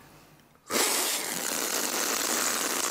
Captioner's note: slurp